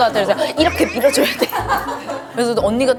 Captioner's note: scrubbing